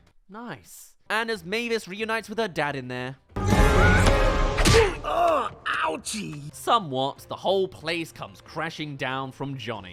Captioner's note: Punch